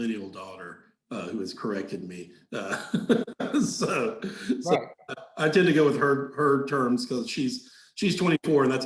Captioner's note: laughing